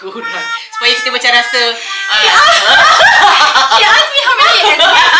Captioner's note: laugh